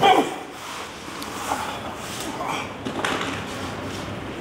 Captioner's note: grunt